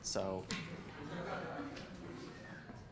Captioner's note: audience laughs